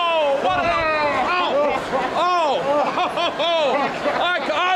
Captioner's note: Andre laughing